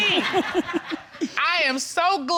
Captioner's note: chuckling